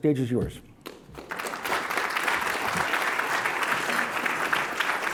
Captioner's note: audience applauding